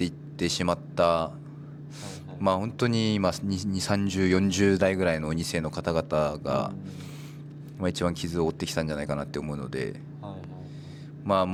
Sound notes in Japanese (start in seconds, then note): 2.0 鼻息